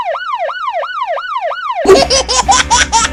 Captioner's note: emergency siren continues; giggles